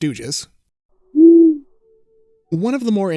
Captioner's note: owl hoots